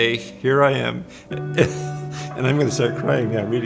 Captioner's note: laughs